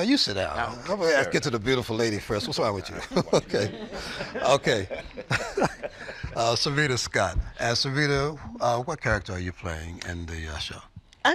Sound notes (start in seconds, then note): 5.7 laughter